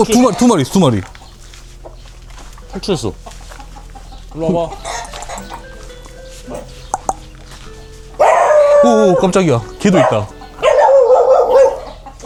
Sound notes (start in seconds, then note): 5.5 calling the chickens